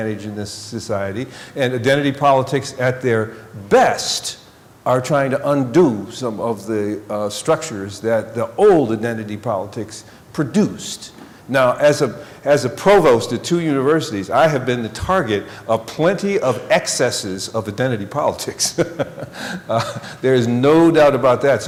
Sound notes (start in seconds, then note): 18.6 laughing